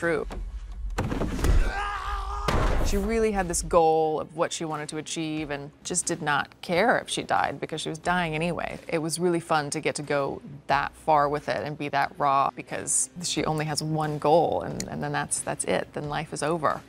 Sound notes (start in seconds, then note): 0.1 tense music; 1.5 actor yelling